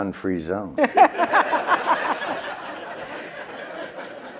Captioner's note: laughter